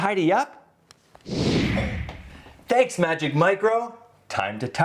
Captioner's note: whoosh sound